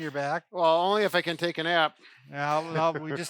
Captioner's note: laughs